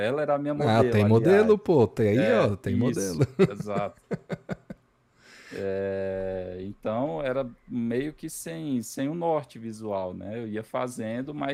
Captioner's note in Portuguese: risadas